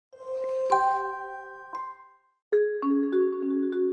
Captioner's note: introduction chime; soft music